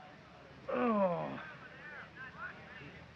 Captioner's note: groans